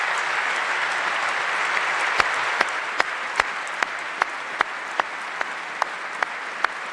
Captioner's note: applause